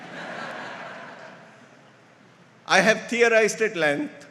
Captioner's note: audience laughs